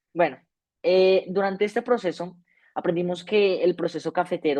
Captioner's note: speaking spanish